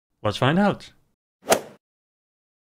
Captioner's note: swoosh